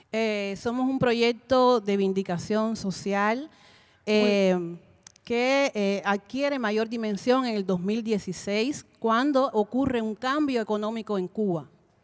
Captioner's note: Spanish language 00:33:21